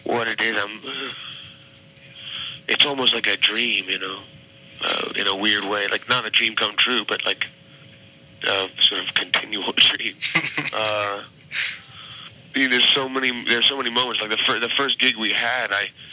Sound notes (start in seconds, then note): 10.0 chuckles